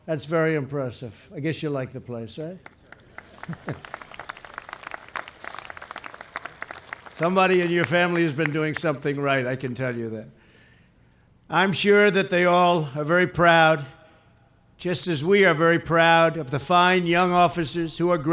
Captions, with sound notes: That's very impressive. I guess you like the place, right? (Applause.) Somebody in your family has been doing something right, I can tell you that. I'm sure they all are very proud, just as we are very proud of the fine young officers who are